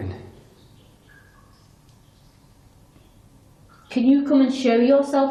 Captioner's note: dripping sounds